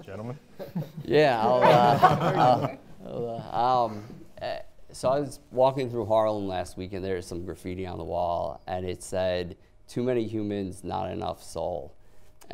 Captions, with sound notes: - Gentlemen. - Yeah, I'll... (audience laughing) I was walking through Harlem last week and there was some graffiti on the wall. And it said, "Too many humans, not enough soul."